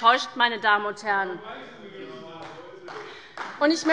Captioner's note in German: Beifall bei Abgeordneten der SPD